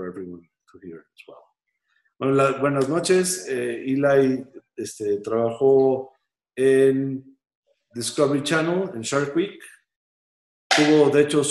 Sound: spanish

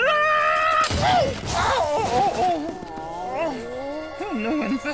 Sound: groaning

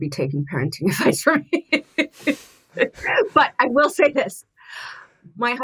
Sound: laughs

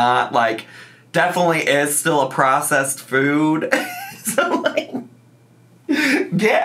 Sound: laughs

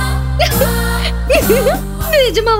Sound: laughs

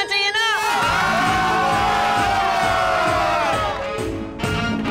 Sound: cheering; garba music

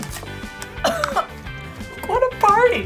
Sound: upbeat music; coughs

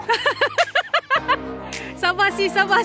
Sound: laughing

